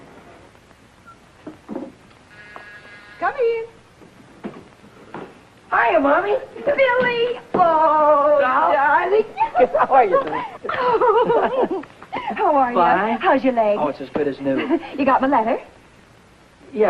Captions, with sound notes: (doorbell buzzing) - Come in. - Hiya, Mommy. - Billy. Oh, darling. - Doll. How are you? - Oh. How are you? - Fine. - How's your leg? - Oh, it's as good as new. - You got my letter?